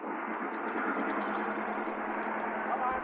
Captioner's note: truck rattling